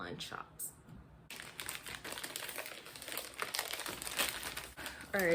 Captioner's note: opening package